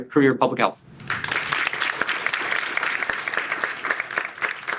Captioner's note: audience applauds